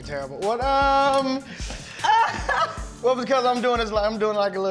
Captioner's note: laughter